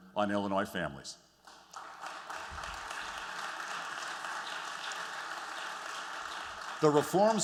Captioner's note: applause